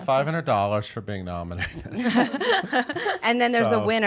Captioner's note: laughs